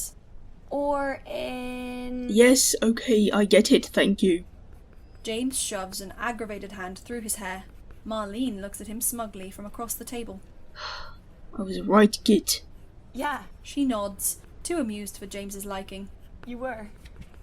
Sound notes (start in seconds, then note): 10.8 sighs